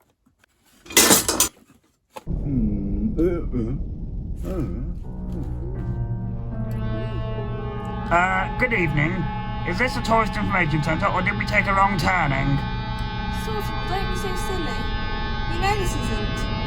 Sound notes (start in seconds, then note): 0.8 metal clash; 5.0 dramatic music; 11.1 dramatic music; 15.7 dramatic music